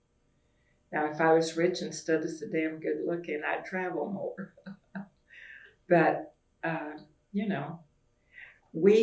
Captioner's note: laughs